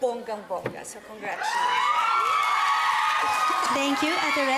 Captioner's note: audience cheering